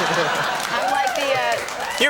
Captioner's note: audience laughing